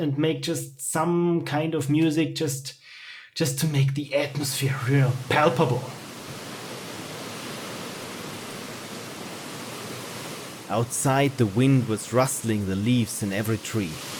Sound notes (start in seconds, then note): 6.3 noise of leaves in a strong breeze; 10.4 narrating